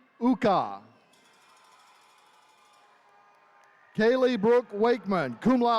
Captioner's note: attendees cheering